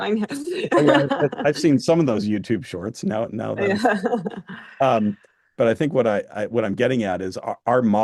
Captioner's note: laughter